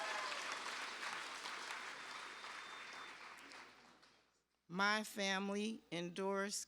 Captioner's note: cheers and applause